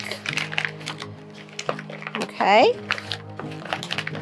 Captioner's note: paper rattling